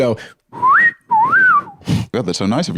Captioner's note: wolf-whistles